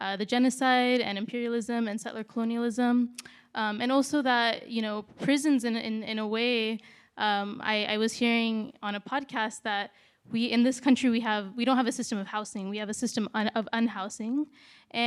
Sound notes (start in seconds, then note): none